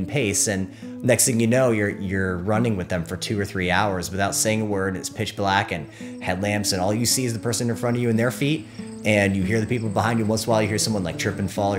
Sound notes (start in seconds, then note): none